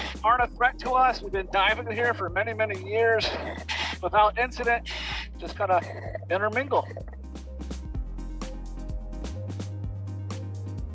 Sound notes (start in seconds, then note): 7.0 water bubbling; 8.3 cool music